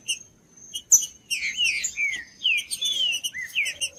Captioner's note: trinca ferro cantando